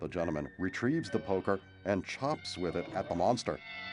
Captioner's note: groaning